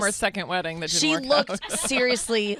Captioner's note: laughs